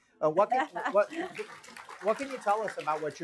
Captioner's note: applause